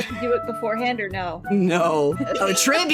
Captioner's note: laughing